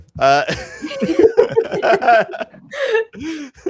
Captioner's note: laughter